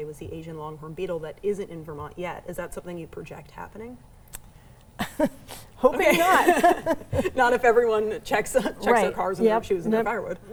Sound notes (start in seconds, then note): 6.0 chuckles; 6.0 both laughing